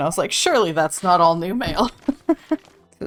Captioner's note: laughs